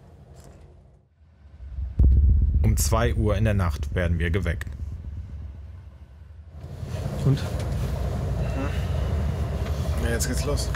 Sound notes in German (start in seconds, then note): none